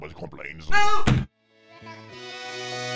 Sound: door slams; high-pitched music

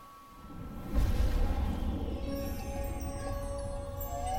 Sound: water splashes

